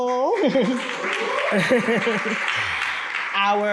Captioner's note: audience clapping